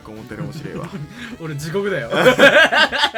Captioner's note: laugh